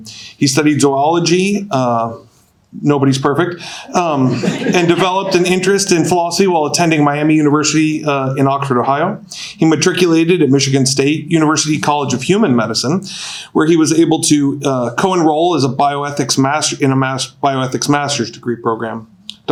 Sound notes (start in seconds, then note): 4.1 audience laughing